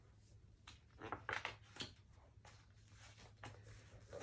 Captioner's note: page turning